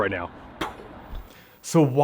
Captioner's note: blows air